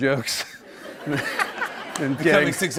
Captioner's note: laughter